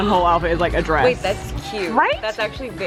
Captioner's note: gasps